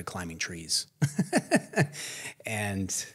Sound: laughs

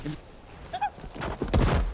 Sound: squeals

